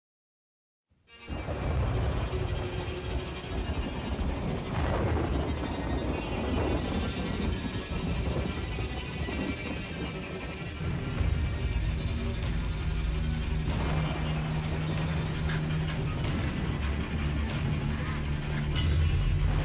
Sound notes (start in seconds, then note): 1.3 menacing music; 1.3 storm